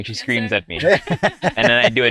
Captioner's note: laughs